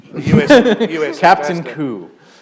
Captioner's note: laughter